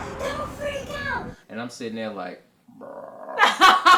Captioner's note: growls; laughs